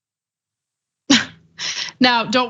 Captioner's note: laugh